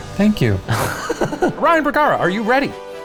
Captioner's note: laughing